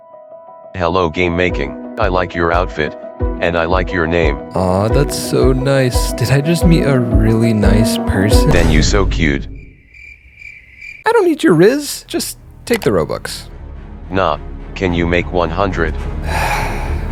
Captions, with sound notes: Hello Gamemaking! I like your outfit, and I like your name. Oh, that's so nice! Did I just meet a really nice person? You so cute! [Crickets Chirping]... I don't need your rizz! Just take the Robux. Nah, can you make it 100?